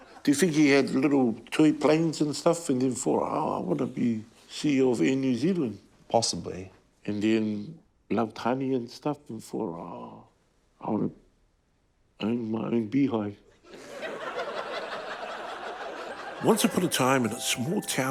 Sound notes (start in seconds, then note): 13.6 laughter